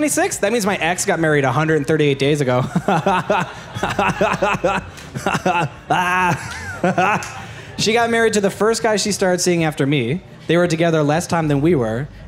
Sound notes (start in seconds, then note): 2.6 creepy laugh